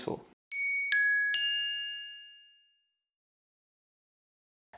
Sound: bells ringing

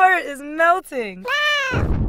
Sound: meow

